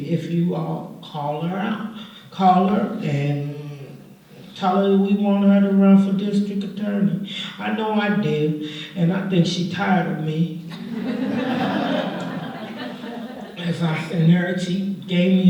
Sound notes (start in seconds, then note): 10.7 laughter